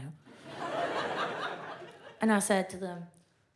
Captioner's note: audience laughs